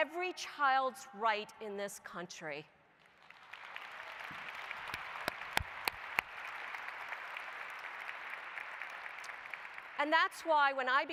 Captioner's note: applause